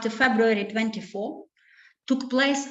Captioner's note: speaking Ukrainian